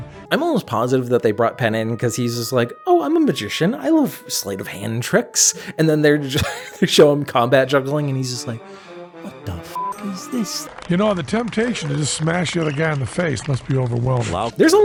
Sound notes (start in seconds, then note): 6.4 wheeze laugh